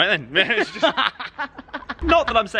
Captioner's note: laughing